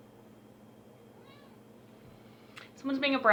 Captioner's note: cat meows